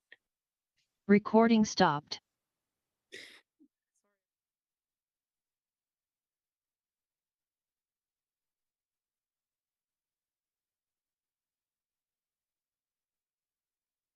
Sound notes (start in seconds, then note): 5.1 recording stopped